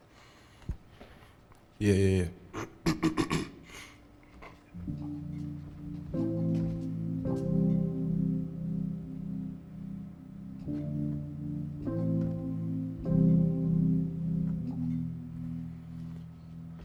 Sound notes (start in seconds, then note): 3.7 clears throat; 4.7 plays keyboard